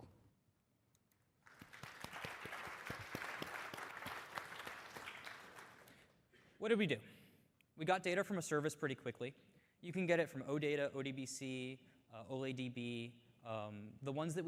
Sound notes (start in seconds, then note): 4.8 applause